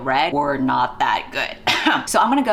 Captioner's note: fake cough